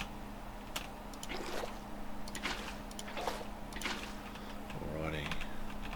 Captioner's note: typing